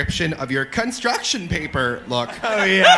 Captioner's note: imitating poorly edited together speech